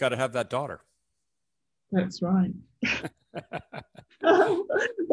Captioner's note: laughs